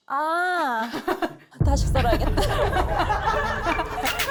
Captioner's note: wavering sound effect